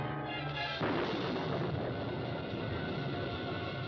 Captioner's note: thunder crashes